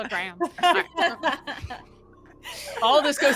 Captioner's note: all laugh